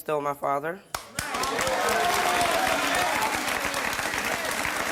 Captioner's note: audience applauding